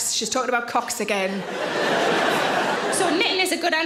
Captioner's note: audience laughs